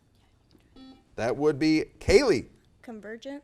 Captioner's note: buzzer